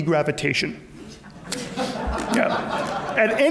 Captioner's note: audience laughs